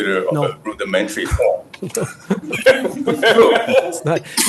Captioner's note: audience laughs